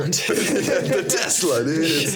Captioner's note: laughing